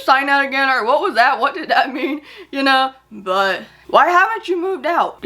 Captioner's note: laughs